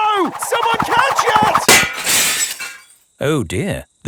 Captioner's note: shatters